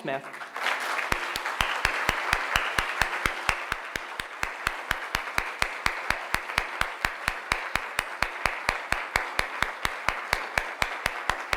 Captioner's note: applause